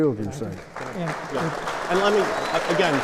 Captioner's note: applause